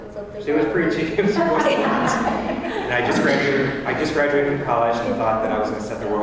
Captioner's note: laugh